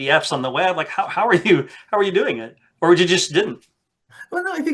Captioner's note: laughs